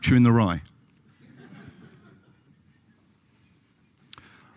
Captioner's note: laughter